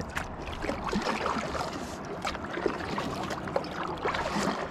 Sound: water lapping

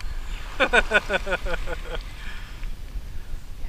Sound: laughs

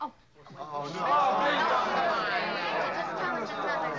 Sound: everybody groaning

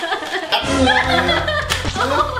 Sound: laughs

